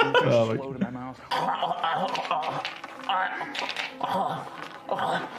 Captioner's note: laughing; gurgling